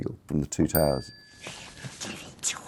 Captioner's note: bell chimes